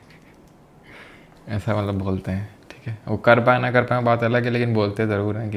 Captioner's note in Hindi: नाक से की जाने वाली आवाज़